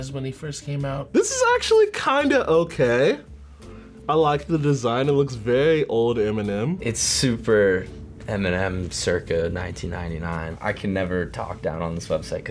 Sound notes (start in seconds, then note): none